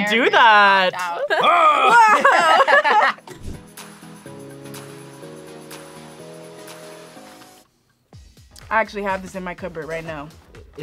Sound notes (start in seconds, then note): 1.2 both laugh; 3.5 upbeat music